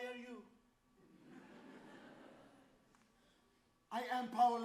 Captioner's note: audience laughs